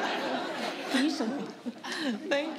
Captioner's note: laughter